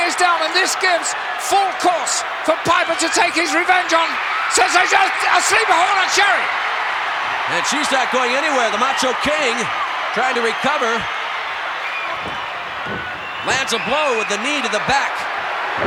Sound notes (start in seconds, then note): 6.8 audience cheering